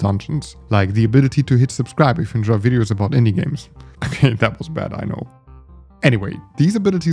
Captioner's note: haha